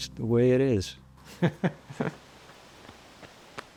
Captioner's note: chuckles